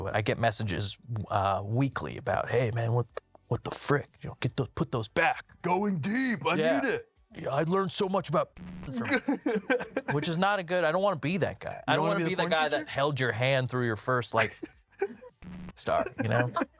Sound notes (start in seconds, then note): 8.9 laughs; 16.5 crew laughing